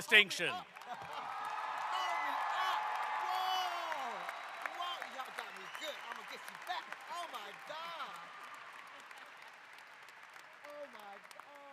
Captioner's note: applause